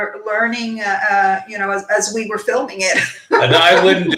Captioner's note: laughing